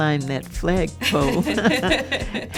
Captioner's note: laughter